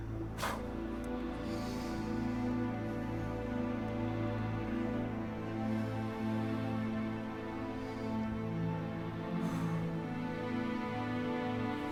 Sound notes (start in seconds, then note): 0.1 gentle music; 9.4 sighs